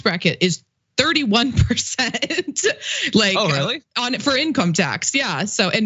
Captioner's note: laugh